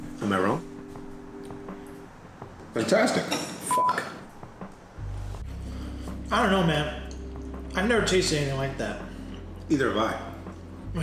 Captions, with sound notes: - Am I wrong? - Fantastic. (beep) I don't know man. I've never tasted anything like that. - Either have I.